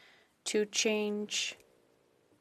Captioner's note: speaking French